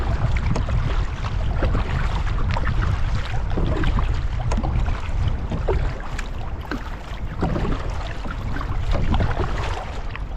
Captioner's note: water splashing